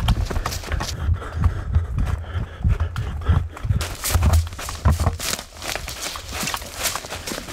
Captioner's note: Dave breathing heavily; leaves crunching